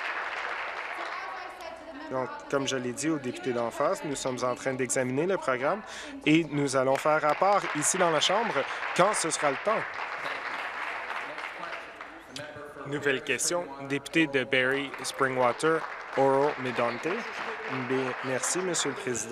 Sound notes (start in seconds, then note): 0.0 applause; 10.5 applause